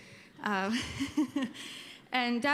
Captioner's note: laughs